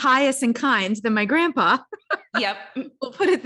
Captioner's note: laughs